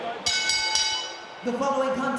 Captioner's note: bell rings